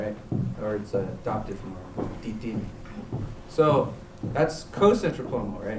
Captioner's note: non-english; non-english